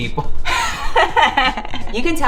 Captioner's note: laughs